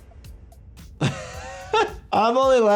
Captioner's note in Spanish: el doctor se ríe